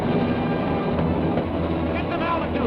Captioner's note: hand tapping